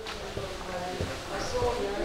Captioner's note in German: Leises Stimmengewirr